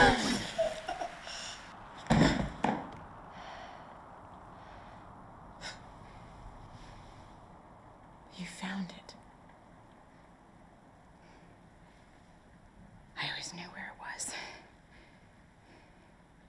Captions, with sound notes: (Omael gasping) (body crashing) You found it. - I always knew where it was.